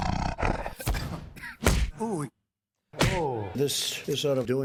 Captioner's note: growling